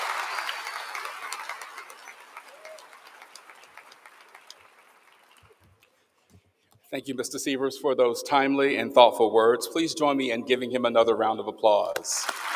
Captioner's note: cheering; applause